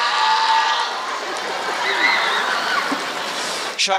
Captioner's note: applause